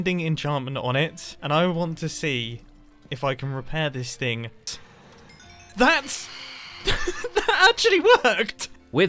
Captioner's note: xp chimes